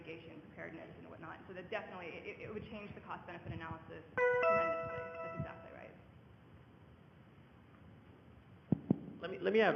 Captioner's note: computer tone